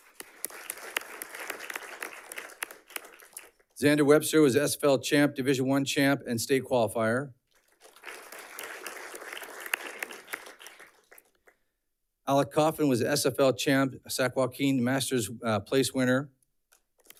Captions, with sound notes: (audience clapping) Xander Webster was SFL Champ, division one champ, and state qualifier. (audience clapping) Alec Coffin was SFL champ, Sac-Joaquin Masters place winner.